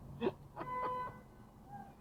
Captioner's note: car ahead honks